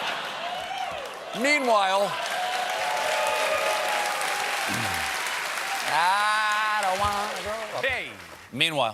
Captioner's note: laughter; cheers and applause